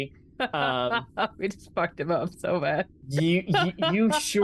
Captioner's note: laughs